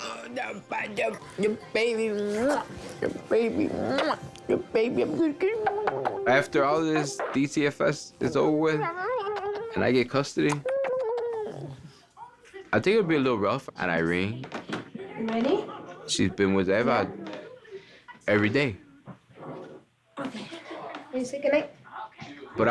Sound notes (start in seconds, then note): 3.8 kisses; 3.8 smooches